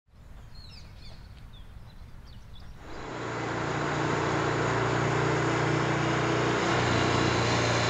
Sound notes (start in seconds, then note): 0.2 bird tweeting; 2.8 motor buzzing